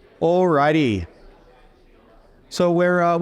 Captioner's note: audience chattering